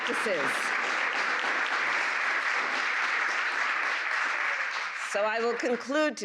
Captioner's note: applause